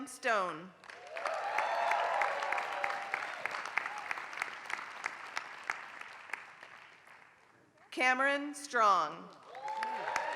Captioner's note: applause; applause